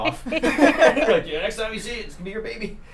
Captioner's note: group laughs